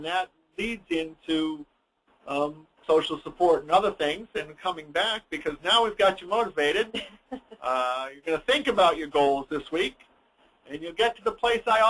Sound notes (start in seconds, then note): 6.9 laughs